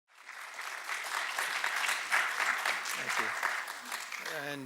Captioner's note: applause